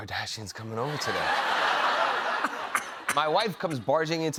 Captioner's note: laughter